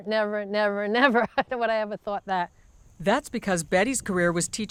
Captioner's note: laughs